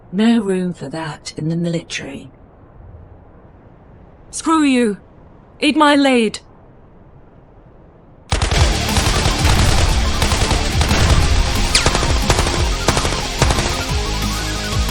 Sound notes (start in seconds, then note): 8.2 tense music; 8.3 gun firing